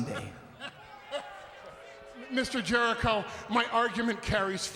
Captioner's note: laughs